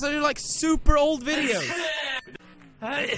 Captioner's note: more poodipie sneezes; sneeze